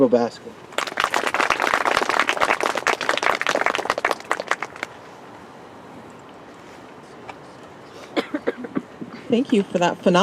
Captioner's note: applause